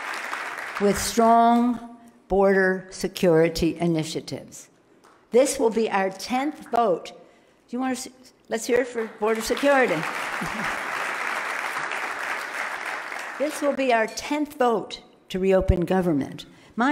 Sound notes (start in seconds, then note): 8.8 loud clapping